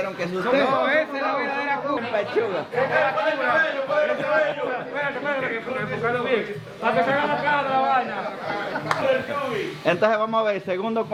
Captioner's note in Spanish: gente hablando